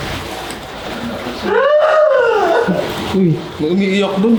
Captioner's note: wailing